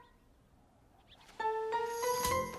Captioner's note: dingdong